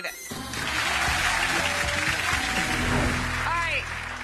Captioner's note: audience clapping